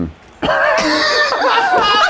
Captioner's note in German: Gelächter